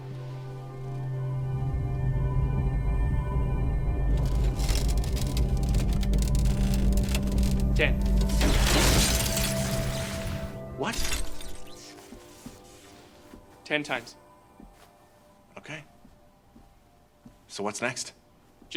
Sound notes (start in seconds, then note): 0.7 mysterious atmospheric synth; 4.0 plastic creaking; 8.3 electrical zap